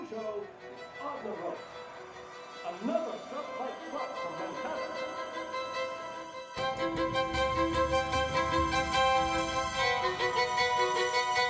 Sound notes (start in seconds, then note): 4.0 voices echoes and fades away